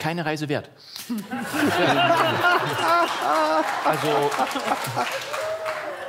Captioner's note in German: Lachen